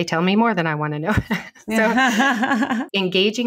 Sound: laughing

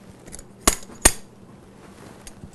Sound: hammering sound

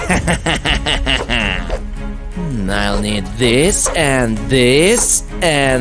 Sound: evil laughter

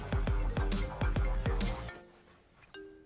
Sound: phone ringing

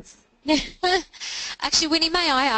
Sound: laughing

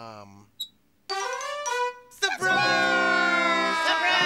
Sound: horn blows

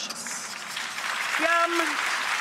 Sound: clapping

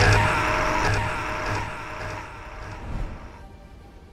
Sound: echoing scream

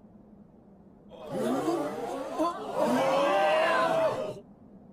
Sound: crowd gasping

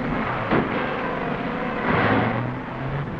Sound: metallic thudding; engine revving

